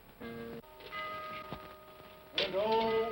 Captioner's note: whimsical ominous music; clock chimes